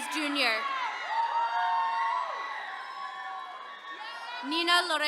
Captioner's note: attendees cheering